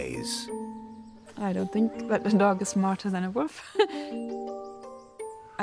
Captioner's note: laughs